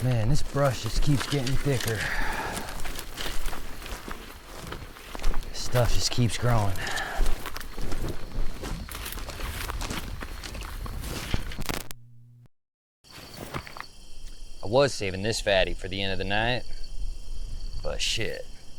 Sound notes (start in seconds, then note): 3.8 footsteps crunching; 3.8 grass rustling; 3.8 insects chittering; 7.9 footsteps crunching; 8.8 insects chittering; 13.0 crickets chirping; 13.9 stones clattering